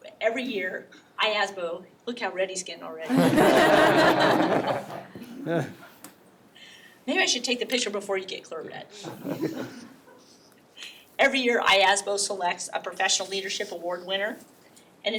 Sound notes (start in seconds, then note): 3.0 all laugh; 9.1 all laugh